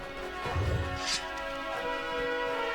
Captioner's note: sword unsheathed; dramatic orchestral music